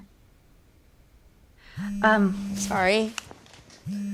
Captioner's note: phone vibrating